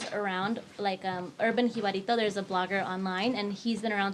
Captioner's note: speaks in foreign language